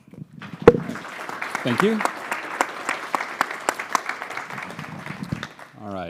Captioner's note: applause